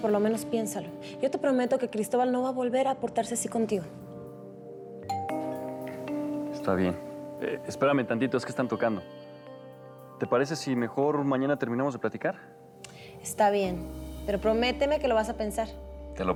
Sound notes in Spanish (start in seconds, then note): 5.0 Timbre de la puerta